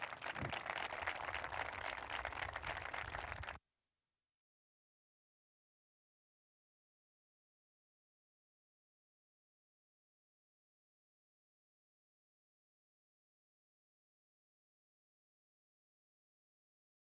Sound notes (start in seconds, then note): 2.0 applause